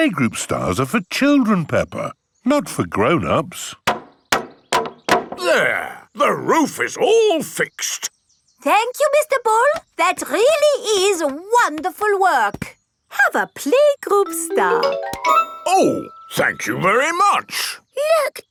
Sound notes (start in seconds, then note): 3.8 hammering